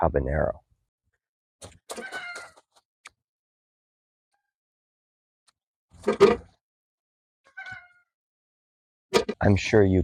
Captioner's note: peppers dropping in the bucket, rooster crowing in background